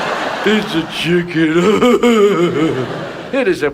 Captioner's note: Ted E chuckles; audience laughs